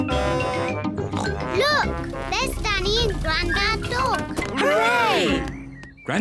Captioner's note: snorts; horn blares